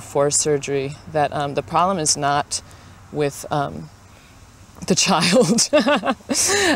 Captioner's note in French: rires